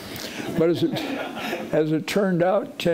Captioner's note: audience laughing